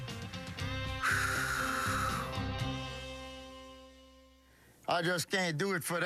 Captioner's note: exhales sharply